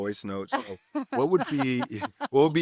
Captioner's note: laughter